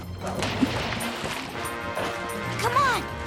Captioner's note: splash